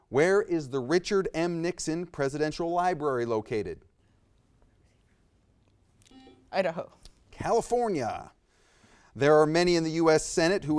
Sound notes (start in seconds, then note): 6.1 buzzer beeps